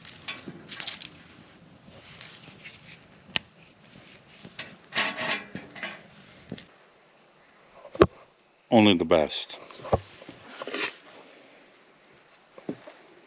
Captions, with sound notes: (twig snaps) Only the best.